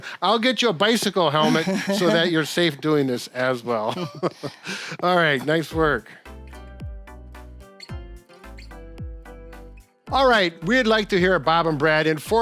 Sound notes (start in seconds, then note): 4.5 laughs; 6.7 lively music